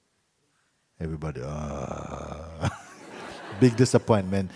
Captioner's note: laughter